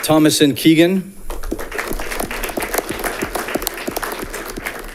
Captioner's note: audience clapping